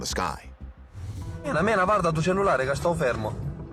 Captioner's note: speaking Italian